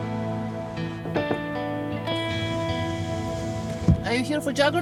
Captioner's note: knocks on window